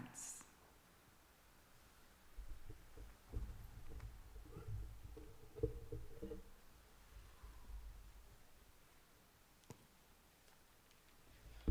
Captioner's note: silence